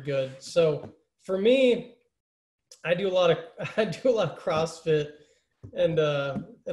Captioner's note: laughter